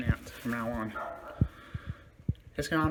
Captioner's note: dog continue barking